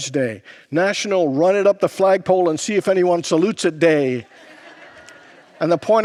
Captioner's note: congregants laugh